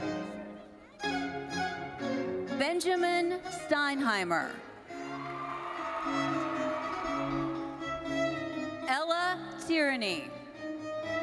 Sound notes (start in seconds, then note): 0.0 bright thoughtful music; 4.9 audience cheering